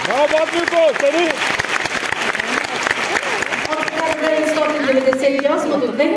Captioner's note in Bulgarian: аплодисменти